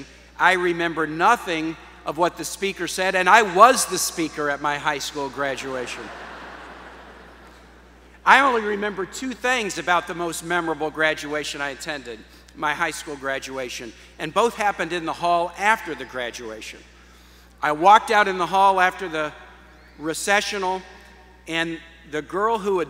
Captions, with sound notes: I remember nothing of what the speaker said and I was the speaker at my high school graduation (Laughter) I only remember two things about the most memorable graduation I attended, my high school graduation and both happened in the hall after the graduation. I walked out in the hall after the recessional and the girl who